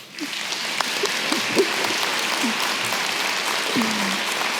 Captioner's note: audience clapping